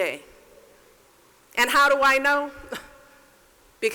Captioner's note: laughs